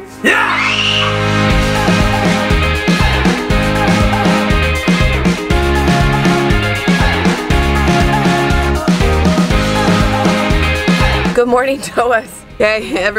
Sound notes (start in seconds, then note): 0.2 shout; 0.2 scream; 1.8 upbeat guitar music